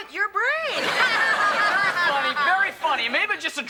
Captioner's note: Morgan and Ethan laughing